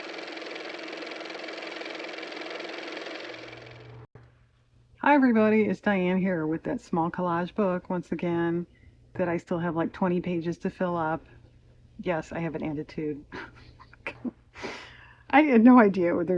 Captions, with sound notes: (car motor) hi everybody it's Diane here with that small collage book once again that I still have like 20 pages to fill up yes, I have an attitude (laughs), I had no idea